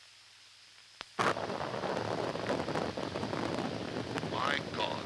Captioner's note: explosion